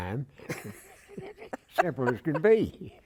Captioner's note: laughter